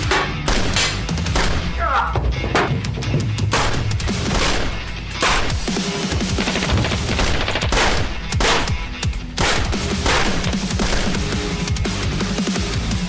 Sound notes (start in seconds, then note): 0.0 gunfire; 2.2 painful scream and fall